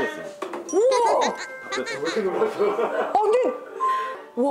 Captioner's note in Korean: 웃음